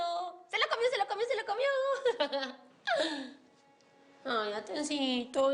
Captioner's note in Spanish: Ríe